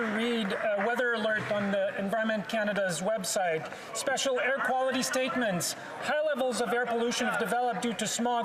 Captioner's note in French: voix de l'interprète